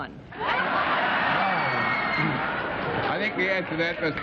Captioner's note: laughter